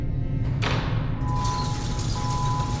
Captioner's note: gate rattling and beeping